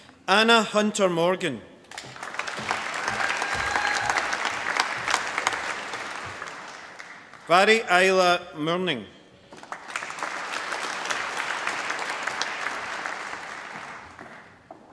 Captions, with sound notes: Anna Hunter Morgan. (APPLAUSE) Mhairi Isla Murning. (APPLAUSE)